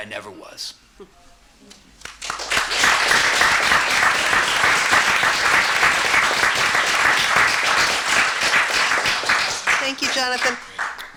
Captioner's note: applause